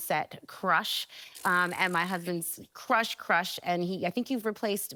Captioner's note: sputtering